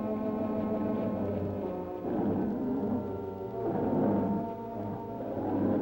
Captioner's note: mysterious music; lizard bellowing